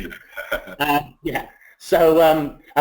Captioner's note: laughs